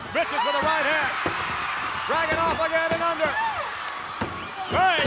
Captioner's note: applause